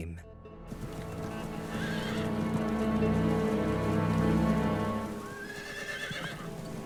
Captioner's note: dramatic music continues; horses whinnying